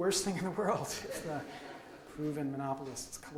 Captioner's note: audience laughs